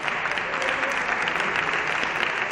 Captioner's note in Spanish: Aplausos